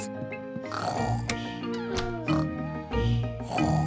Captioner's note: both snoring